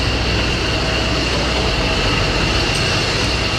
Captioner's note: plane noise